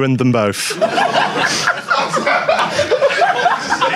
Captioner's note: audience laughs